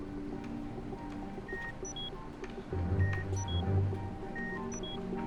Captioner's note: machine beeping